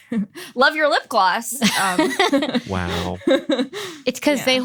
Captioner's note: laughs